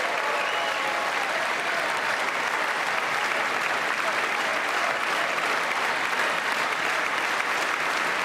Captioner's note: applause